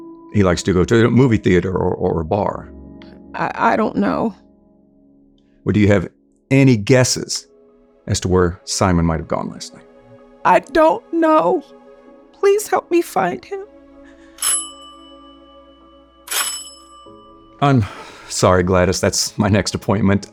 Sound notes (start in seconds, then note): 14.4 doorbell chimes